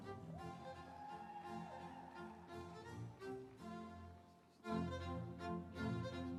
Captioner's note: audience cheering; instrumental music